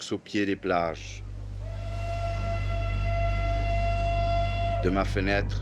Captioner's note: whistle blowing